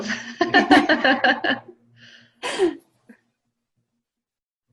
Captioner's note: chuckling